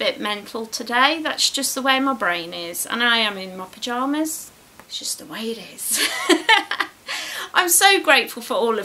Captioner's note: laughs